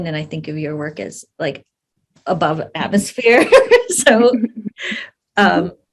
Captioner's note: laughs